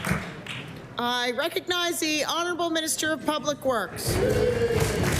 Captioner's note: applause